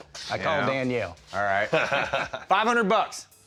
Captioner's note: laughing